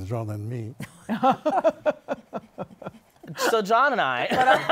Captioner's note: laughter; laughter